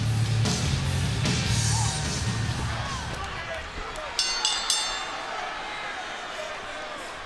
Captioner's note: bell ringing; crowd chatter